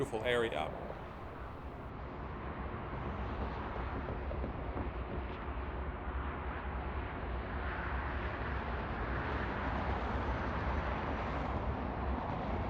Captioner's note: wind howling